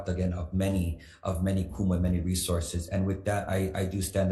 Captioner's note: speaks foreign language